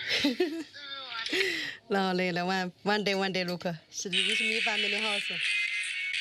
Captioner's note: child speaking foreign language; chuckling and speaking foreign language